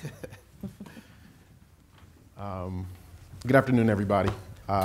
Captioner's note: laughing